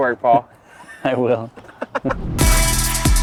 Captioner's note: laughing; intense music